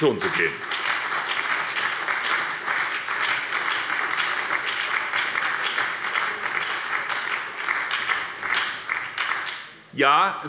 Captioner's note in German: Beifall bei der SPD